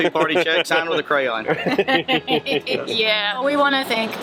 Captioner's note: laughter